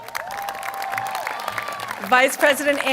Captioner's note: applause